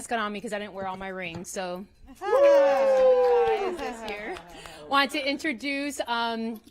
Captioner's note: cheering and applause